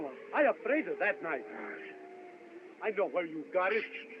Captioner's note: groans